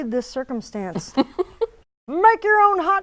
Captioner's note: laughing